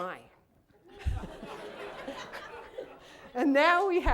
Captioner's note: laughter